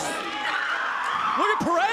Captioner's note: Perez shrieks